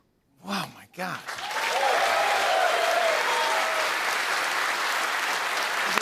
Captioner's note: cheers and applause